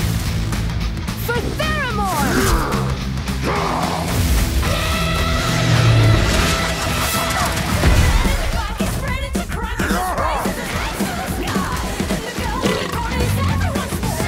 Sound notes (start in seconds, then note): 1.3 grunts and yells